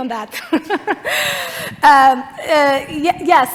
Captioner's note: laughter